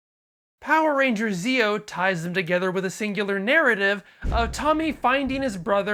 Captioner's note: thunder crash